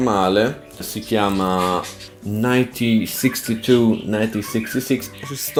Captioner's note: chirping